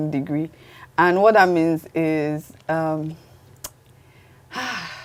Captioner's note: sighs